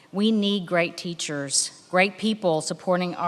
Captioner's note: none